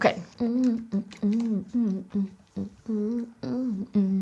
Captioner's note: humming